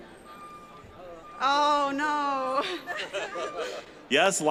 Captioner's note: laughing